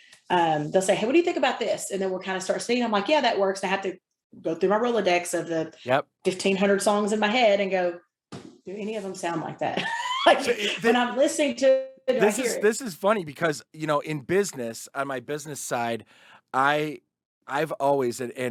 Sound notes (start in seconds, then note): 11.5 audio blurs